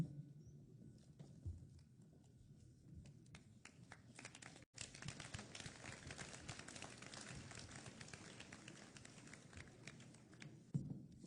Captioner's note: applause